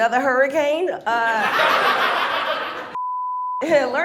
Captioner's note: audience laughs